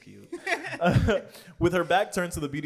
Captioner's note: laughs